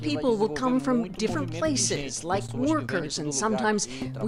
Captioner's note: speaking alternate language